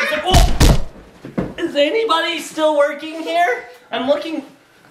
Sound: dad hits floor

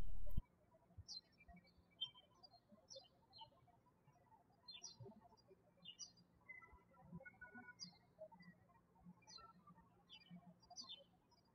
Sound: birds chirping

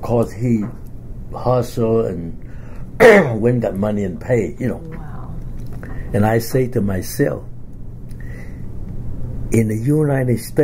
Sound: coughs

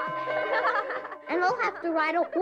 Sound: school bell rings

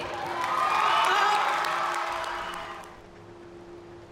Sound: audience cheering

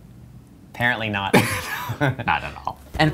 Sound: laughs

